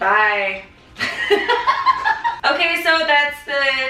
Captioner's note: laughing